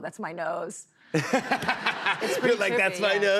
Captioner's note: laughter